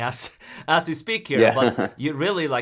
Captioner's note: chuckles